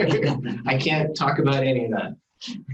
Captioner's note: laughing